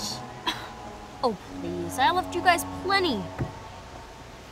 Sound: scoffs

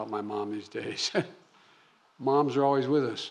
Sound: laughs

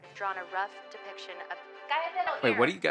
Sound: voice On Television

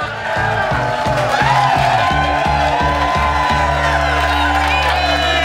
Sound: audience cheering

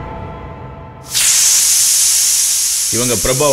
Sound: cooker whistle blows

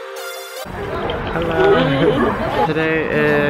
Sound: laughing

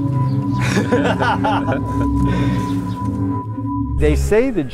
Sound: laugh

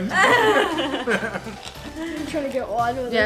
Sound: laughing

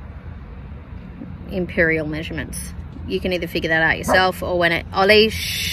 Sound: Ollie barks

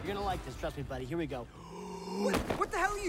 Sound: deep breath

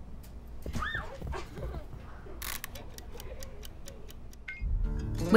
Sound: children laughing

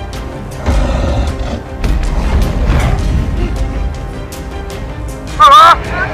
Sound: carnotaurus Growling; stomping Sounds

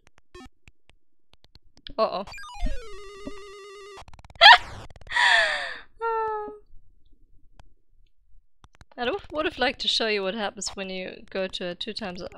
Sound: laughing

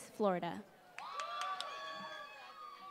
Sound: applause

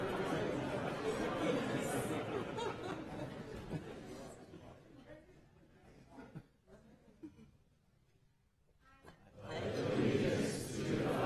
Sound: laughter

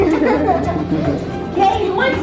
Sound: laughter

